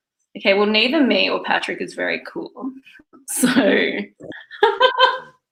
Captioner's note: laughs